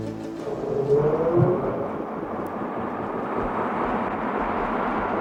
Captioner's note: ominous music; helicopter buzzing